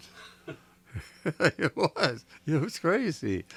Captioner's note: laughs